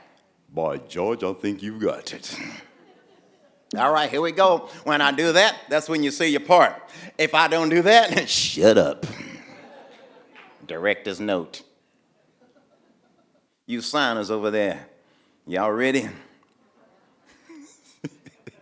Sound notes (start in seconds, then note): 9.0 audience laughing; 16.7 everyone laughing